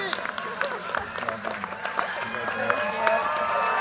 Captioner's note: audience cheers and applause